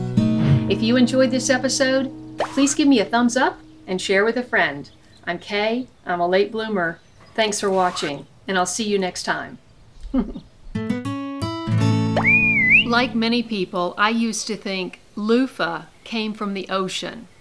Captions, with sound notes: If you enjoyed this episode, please give me a thumbs up, and share with a friend. I'm Kaye, I'm a late bloomer, thanks for watching, and I'll see you next time. Ha, ha. (jingle, whistle) Like many people I used to think... loofa came from the ocean...